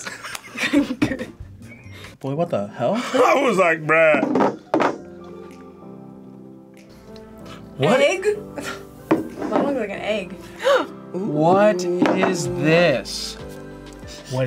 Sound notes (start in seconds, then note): 0.0 both laugh; 8.9 laughs; 10.5 gasps